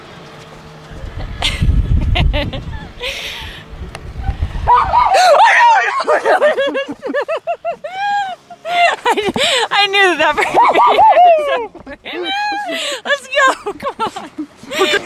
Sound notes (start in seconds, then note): 1.6 laughing; 4.5 yells; 4.6 screams; 6.9 laughing; 10.3 yells